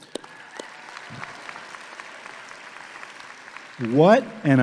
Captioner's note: audience clapping; claps